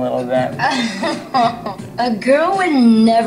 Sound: Tila laughs

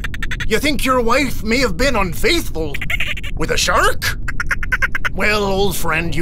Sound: dolphin squeaks; more squeaks; short squeak

